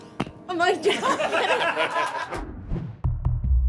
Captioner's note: laughter